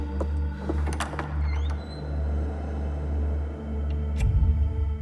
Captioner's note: door creaks; dramatic music